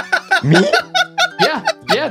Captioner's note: laughing